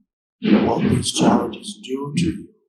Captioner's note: objects banging